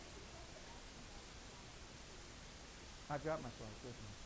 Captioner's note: voiceover